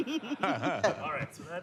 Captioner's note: laughter